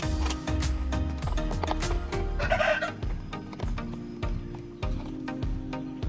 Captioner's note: rooster crowing